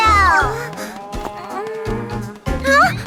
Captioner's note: soft groan; gasps